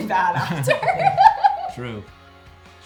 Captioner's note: Bailee laughs